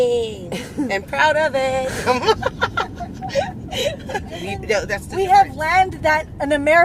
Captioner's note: laughs